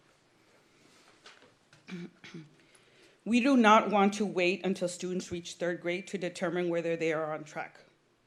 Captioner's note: clears throat